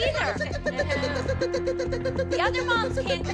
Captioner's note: makes chirping sound